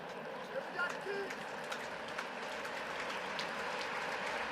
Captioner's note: applause